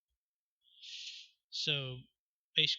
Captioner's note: inhale